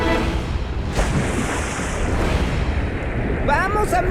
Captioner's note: water splashing